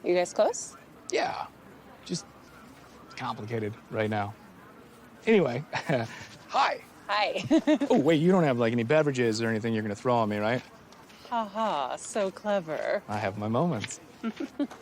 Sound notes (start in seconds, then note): 5.4 chuckles